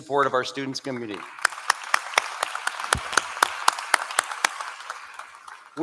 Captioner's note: applause